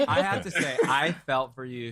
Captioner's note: laughter